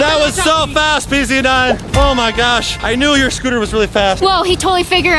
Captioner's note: none